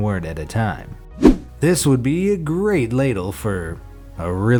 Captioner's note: air whooshes